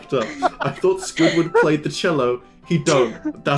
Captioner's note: laughter